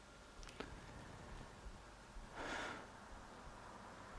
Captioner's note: sighs